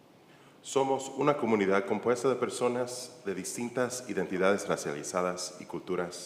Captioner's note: church member speaking in Spanish